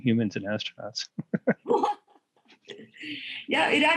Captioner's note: laughter